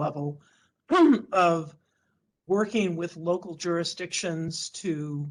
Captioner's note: clears throat